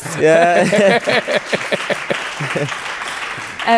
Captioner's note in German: Lachen, Durcheinanderreden, Applaus